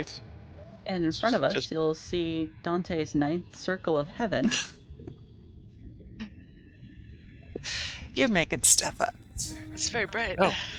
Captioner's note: laughter